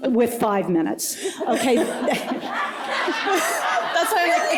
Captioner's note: laughter